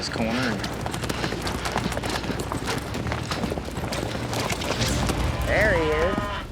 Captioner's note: hoof beats